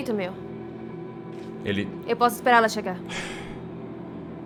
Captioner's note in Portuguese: suspira